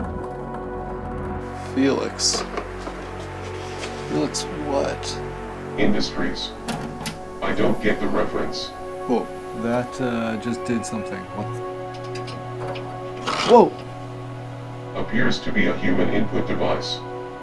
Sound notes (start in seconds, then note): 8.9 loud Click; 9.6 booting Sounds